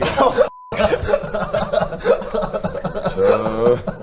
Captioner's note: laughs